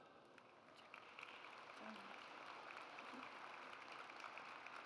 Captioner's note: audience applauds